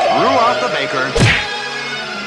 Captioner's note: smack!